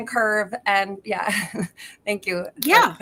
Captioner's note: chuckles